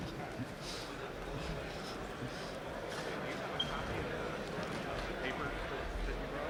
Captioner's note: audience chatter